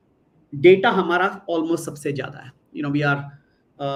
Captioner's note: non-english speech